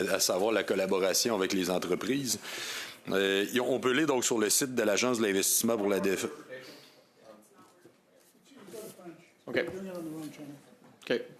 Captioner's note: speaking French